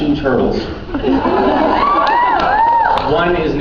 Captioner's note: cheers